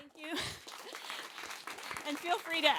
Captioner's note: applause